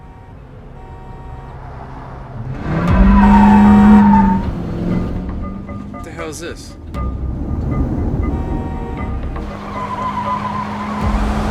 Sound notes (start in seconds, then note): 0.6 dramatic music playing; 2.6 horn; 2.6 wheels squeaking; 6.6 suspenseful music